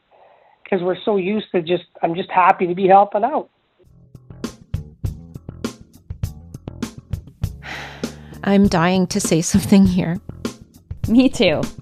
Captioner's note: sigh